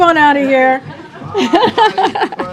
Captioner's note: laughs